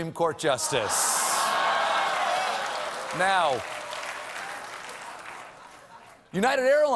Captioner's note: applause